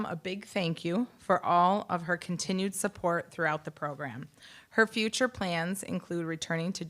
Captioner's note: none